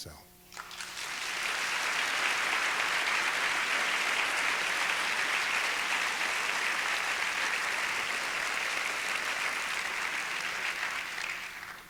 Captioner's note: applause